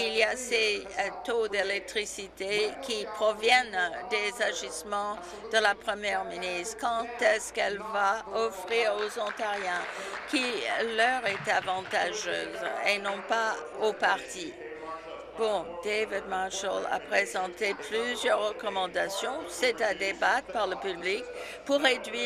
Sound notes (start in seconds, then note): 12.2 applause